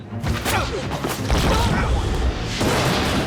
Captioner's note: grunts